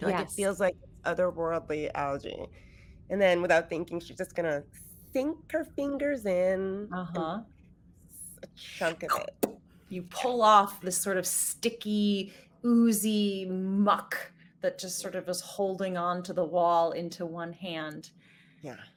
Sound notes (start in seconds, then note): 8.7 mimicking suction